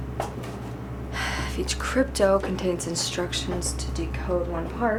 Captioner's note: sighs